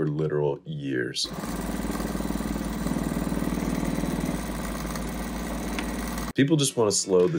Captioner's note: fast sewing